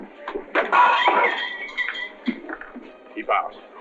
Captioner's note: glass shatters